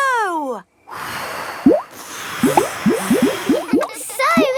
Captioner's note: all blowing